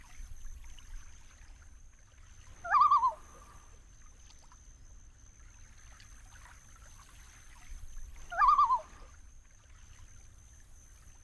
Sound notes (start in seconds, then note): 2.7 loon calling